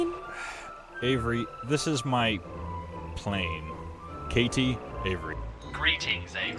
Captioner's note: sighing